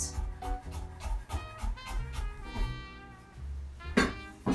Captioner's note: knife chopping